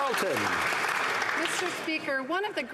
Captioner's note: some Applause